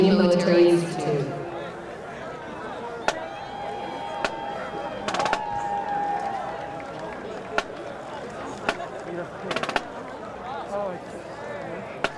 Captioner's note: crowd noise